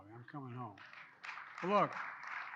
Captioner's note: applause